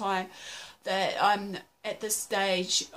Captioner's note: gasp